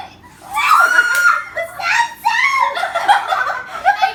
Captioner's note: squeals